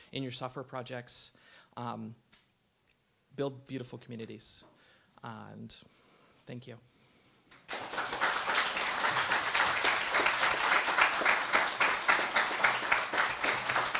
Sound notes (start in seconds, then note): 7.5 audience claps